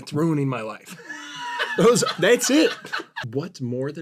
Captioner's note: laughter